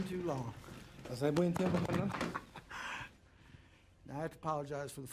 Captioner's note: Roland speaking in Spanish